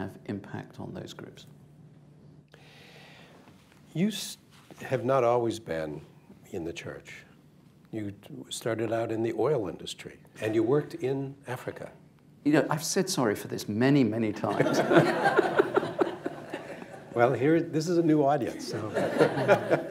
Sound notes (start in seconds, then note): 14.4 laughter, laughs; 18.6 laughter